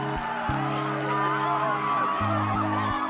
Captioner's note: chuckles